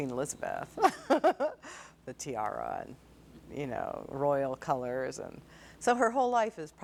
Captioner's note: laughing